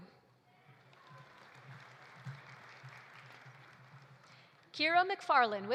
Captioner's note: audience applauding